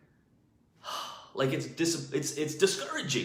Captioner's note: sighs